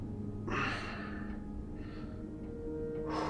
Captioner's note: sighs